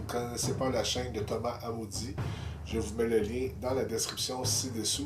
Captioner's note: french